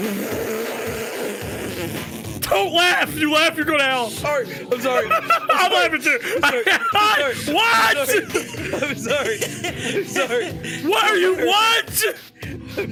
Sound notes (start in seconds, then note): 0.3 laughs; 5.1 laughs; 10.2 laughs